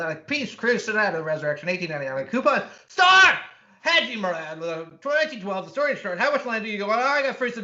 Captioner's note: yelling